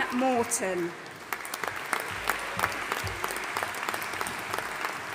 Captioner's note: audience applauding